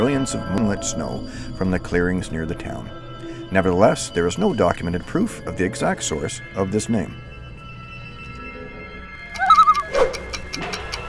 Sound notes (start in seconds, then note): 9.3 loon call